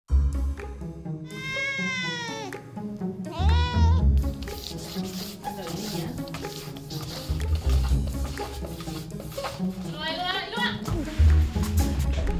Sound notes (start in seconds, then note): 4.2 Scratch